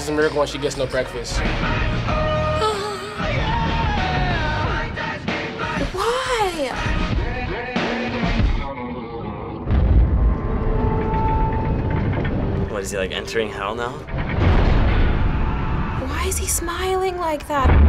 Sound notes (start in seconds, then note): 2.7 mockingly; 10.2 eerie whining, ratcheting; 14.4 loud clank, distant screaming